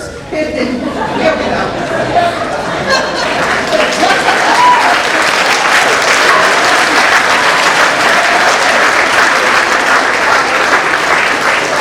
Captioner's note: applause